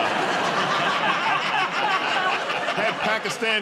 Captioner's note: laughter